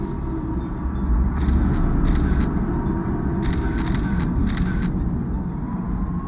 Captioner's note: shutter clicks